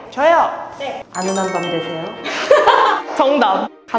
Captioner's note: extra soft sound effect